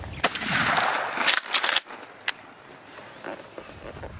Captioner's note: gun firing